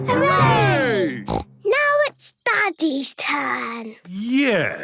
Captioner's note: snort